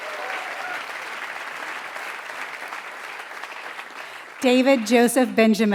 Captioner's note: applause